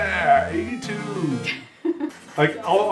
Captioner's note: laughing